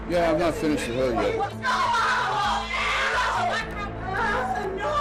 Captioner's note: screaming